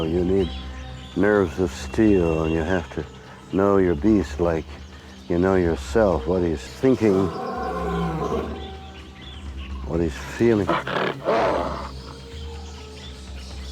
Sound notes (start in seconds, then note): 6.9 lion roars; 10.2 wolf snarling